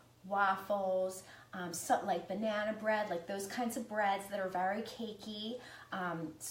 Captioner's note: none